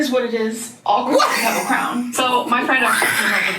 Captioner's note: laughs